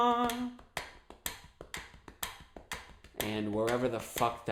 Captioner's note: tapping and ticking sound